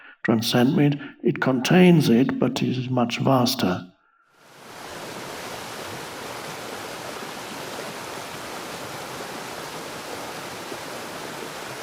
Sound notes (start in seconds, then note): 4.4 waterfall rushes